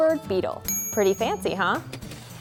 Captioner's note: ladybug tinging